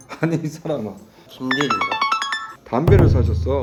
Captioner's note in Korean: 문자알림